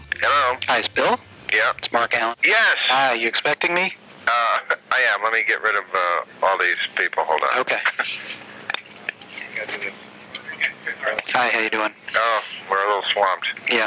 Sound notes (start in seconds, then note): 4.3 laughing